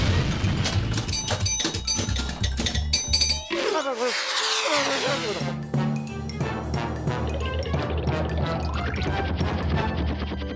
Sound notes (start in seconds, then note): 0.1 pinball clanking; 4.8 whooshing